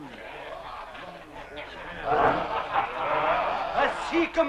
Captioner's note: men laughing